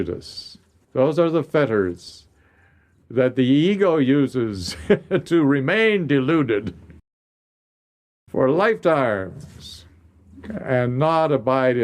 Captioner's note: laughs